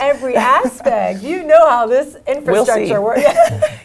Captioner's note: laugh; laugh